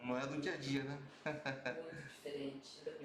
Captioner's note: laughter